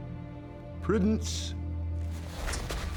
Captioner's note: scottish accent